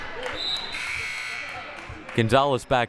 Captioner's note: buzzer buzzing